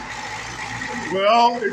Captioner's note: fast idle